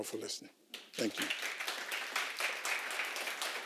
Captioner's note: applause